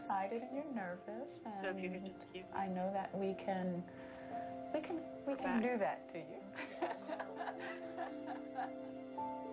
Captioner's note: laughing